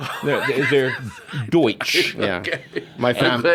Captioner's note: laughs